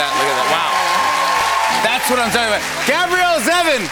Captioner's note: cheers and applause